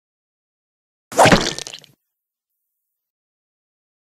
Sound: sound of sword

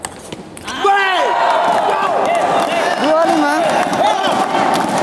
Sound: applause

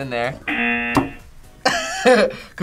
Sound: buzzer rings; laughs

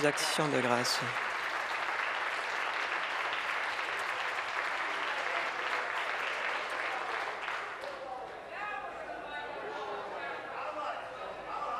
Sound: applause

